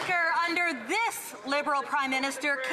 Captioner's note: some Applause